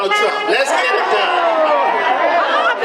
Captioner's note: audience laughter and applause